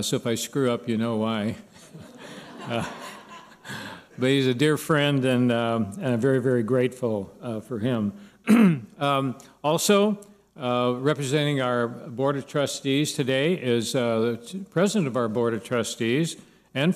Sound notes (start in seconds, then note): 1.8 laughter; 8.4 clears throat